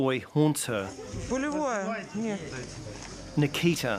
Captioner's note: speaks in ukrainian